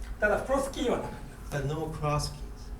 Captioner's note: speaking in foreign language